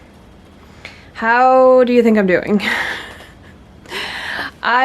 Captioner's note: laughs